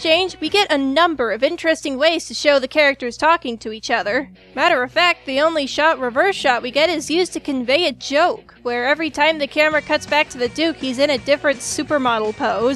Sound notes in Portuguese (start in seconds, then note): none